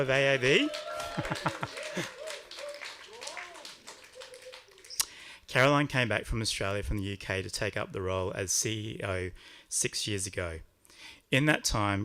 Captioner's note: applause